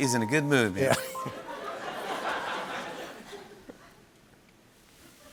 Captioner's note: laughter